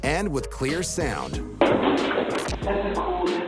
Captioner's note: footsteps quickly receding